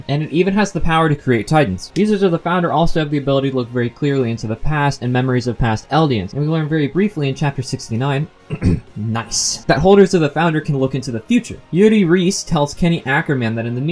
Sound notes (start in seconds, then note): 8.4 eh-em